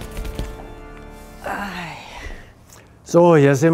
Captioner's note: sighs